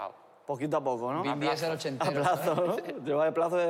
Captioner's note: laughs